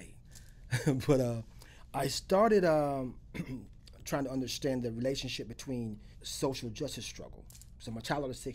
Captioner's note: laughs